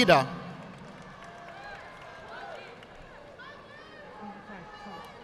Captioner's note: audience applauding